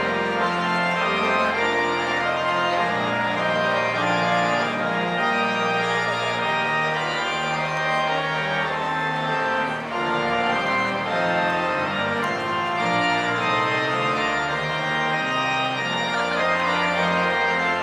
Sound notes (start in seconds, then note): none